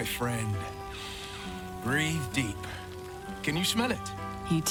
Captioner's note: inhales